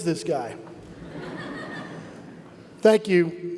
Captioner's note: audience laugh